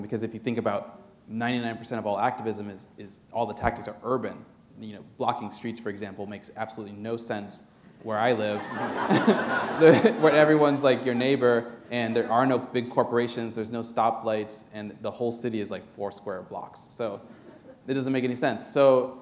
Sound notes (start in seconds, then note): 8.5 laughter